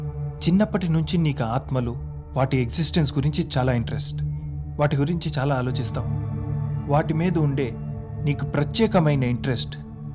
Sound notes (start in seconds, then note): none